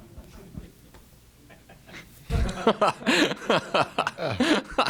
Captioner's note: chuckling